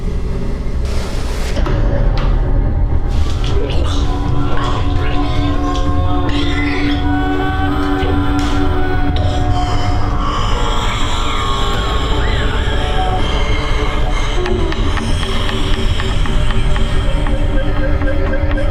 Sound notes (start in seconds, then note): 2.4 Scott gargling; 2.4 tense sinister music